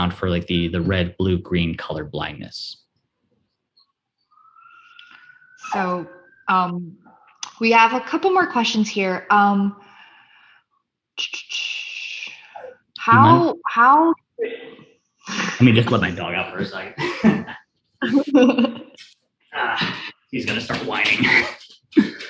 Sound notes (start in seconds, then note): 17.2 laughs